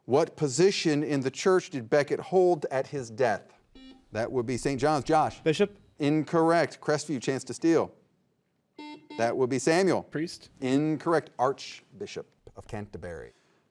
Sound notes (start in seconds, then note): 3.7 buzzer beeping; 8.8 buzzer beeping